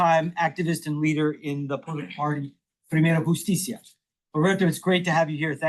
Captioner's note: speaks Spanish